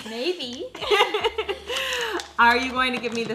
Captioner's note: laughs